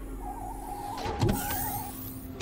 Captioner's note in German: Türen öffnen sich